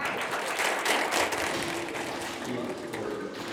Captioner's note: applause